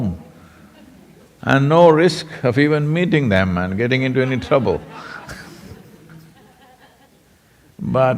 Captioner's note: laughs; laughter